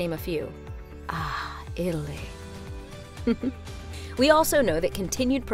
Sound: host laughing

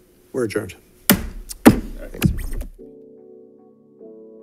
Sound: gavel banging; gentle music

